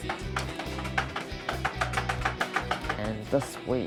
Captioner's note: tapping sound